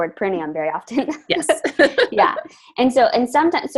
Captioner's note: all laugh